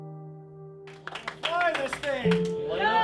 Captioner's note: crowd cheering